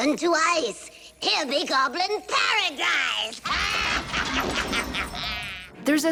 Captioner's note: laughing